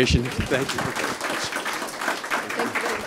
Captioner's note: applause